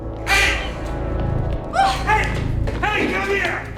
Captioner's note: Alejandra shrieks